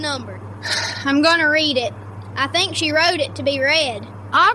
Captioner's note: breath